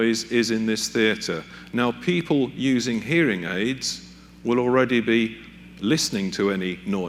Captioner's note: humming Sound